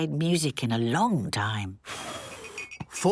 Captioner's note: blows